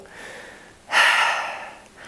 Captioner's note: sigh